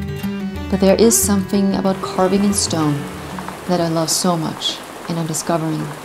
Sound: rainfall

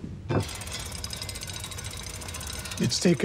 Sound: mechanism clicking and whirring

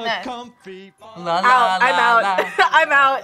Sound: laughs

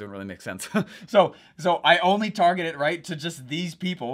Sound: laughing

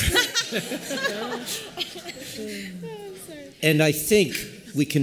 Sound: laughter

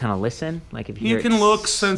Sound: makes hissing sound

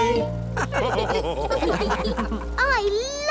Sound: all laugh

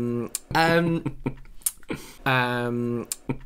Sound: lots of Umming

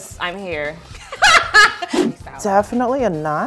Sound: laughing

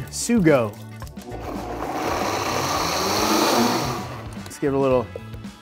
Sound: blender whirring

